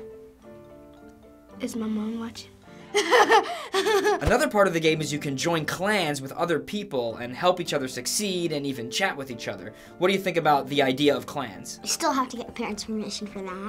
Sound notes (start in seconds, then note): 1.6 quietly; 2.9 laughs nervously